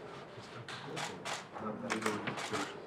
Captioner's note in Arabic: كرامنيك يتحدث بهدوء